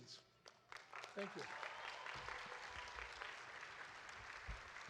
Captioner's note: audience applauding